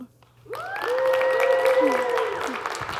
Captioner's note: audience clapping; audience cheering